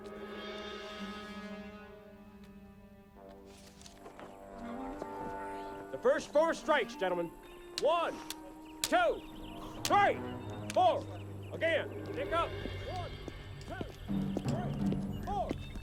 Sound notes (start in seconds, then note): 9.6 sticks clacking